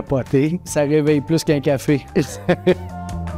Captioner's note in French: Rires